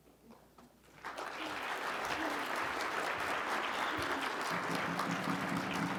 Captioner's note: audience applauding; dramatic drumming